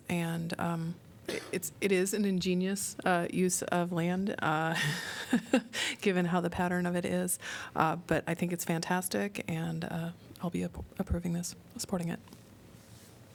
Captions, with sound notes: And it is an ingenious use of land [LAUGHTER] given how the pattern of it is. But I think it's fantastic and I'll be approving this by supporting it.